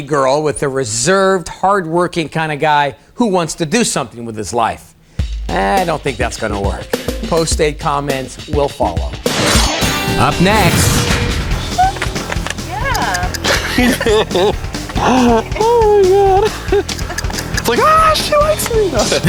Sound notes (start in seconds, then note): 11.8 squeals and claps; 14.6 laughs